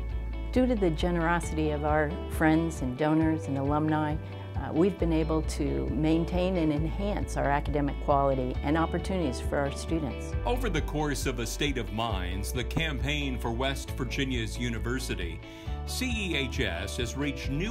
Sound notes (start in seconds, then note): 10.3 voiceover